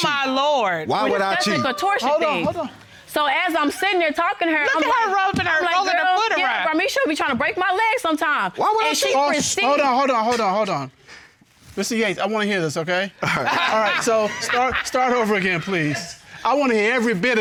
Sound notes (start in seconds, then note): 13.2 laughs